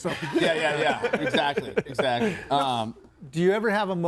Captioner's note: group laughs